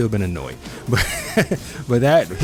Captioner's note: chuckles